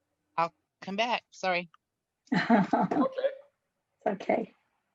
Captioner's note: laughs